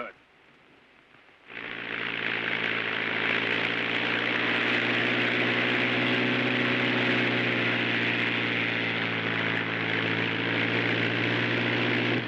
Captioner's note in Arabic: هدير الطائرة